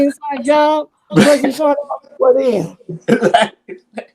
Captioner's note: chuckles